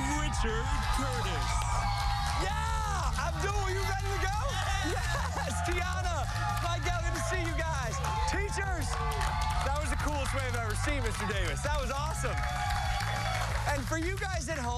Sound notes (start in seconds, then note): 6.9 cheers